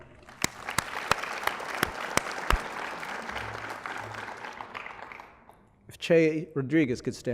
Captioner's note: applause